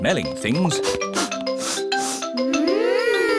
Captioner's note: all sniffing